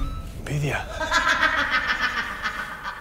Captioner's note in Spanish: Risa malvada en la lejanía